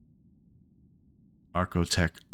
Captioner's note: silence